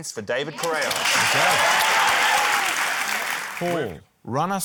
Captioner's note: cheering, applause